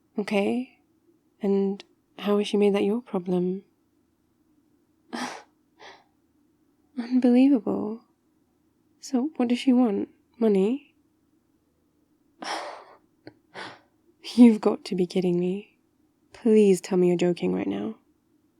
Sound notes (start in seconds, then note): 5.1 le gasp